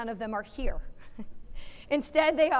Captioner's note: laughs